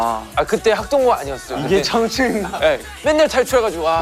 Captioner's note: haha